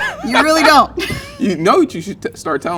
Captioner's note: laughing